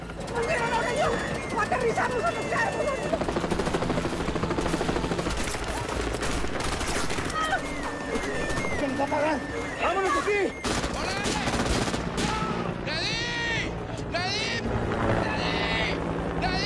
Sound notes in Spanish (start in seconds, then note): 5.2 Disparos